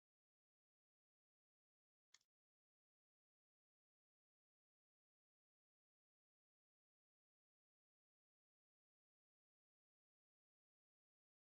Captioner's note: break with no one speaking